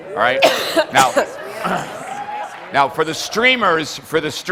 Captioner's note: audience cheers